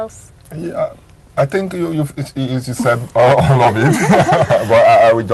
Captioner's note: chuckles